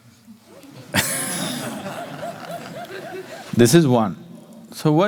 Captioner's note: laughter